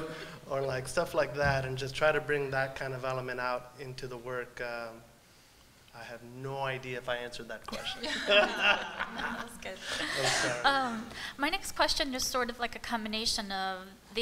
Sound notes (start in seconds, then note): 7.7 laughter